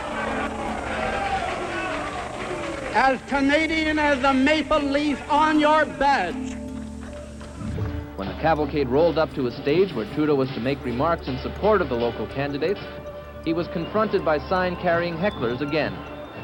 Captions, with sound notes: [crowd jeering] As Canadian as the maple leaf on your badge. Reporter:When the cavalcade rolled up to a stage where Trudeau was to make remarks in support of the local candidates, he was confronted by sign-carrying hecklers again;